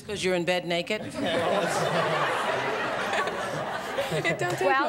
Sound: laughter

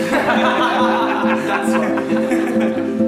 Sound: group laughs

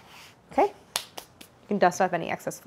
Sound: hand clasping

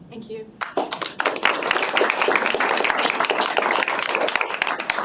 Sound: applause

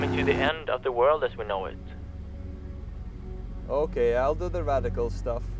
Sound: boat engines roar

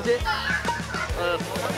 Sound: booing

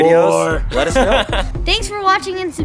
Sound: laughs

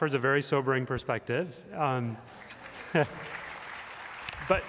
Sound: applause

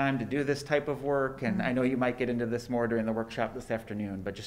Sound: none

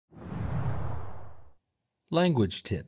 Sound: air wooshing

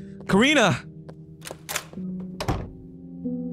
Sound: door opens; door closes

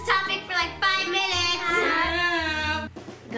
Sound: groaning

